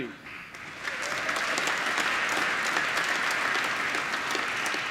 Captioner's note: applause